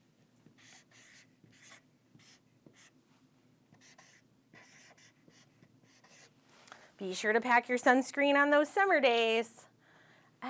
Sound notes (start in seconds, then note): 0.5 marker scratching